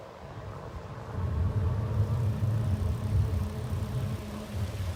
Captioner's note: electric bike engine running